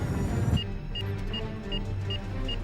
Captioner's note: alarm